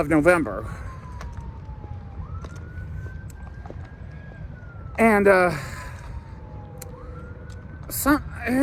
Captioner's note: police, fire, or ambulance siren wailing from a distance